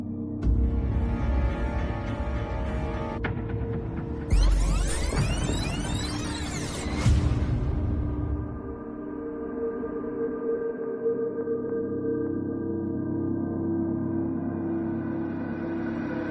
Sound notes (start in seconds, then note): 4.3 tape screeching